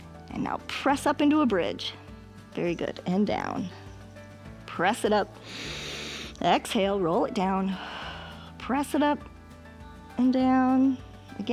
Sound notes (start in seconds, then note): 5.4 inhales; 7.9 exhales